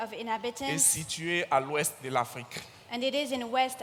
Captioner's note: continues in French